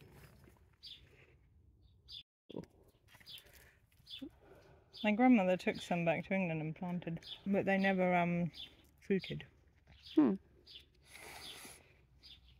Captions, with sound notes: My grandmother took some back to England and planted, but they never fruited [hmm].